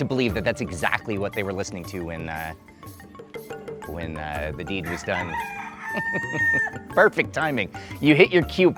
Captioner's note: rooster crows